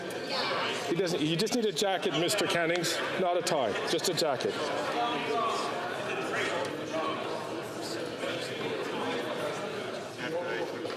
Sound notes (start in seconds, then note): 2.1 conversation din